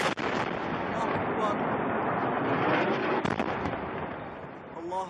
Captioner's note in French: Audio parlé en arabe